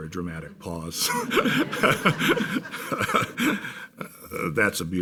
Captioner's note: laughing